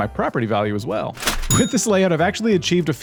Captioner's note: cash register ching